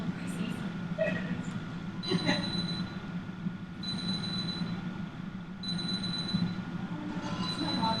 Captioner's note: phone rings